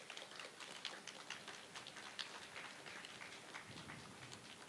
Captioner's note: applause